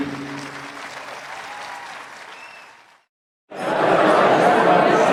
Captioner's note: audience applauding